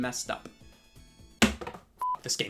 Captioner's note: banging; beep